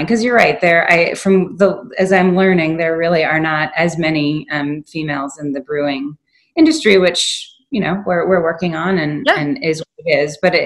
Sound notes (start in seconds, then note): none